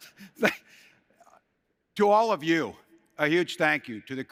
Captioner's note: laughter